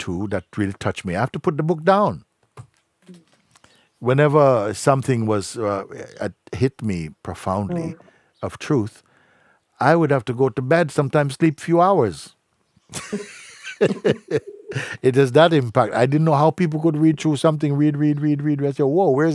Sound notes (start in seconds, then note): 12.9 lacht